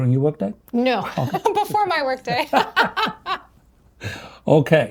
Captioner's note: laughing